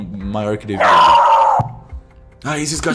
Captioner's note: dog barking